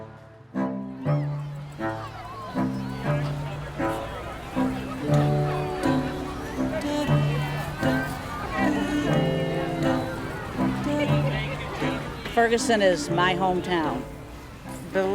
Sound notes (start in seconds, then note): 3.9 people chattering